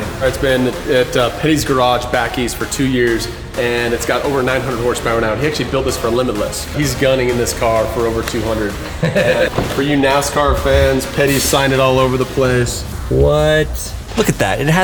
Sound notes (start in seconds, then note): 8.7 host laughs